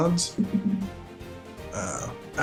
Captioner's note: bouncing thuds